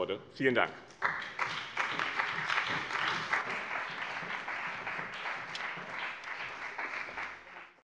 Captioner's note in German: Beifall bei dem BÜNDNIS 90/DIE GRÜNEN und der CDU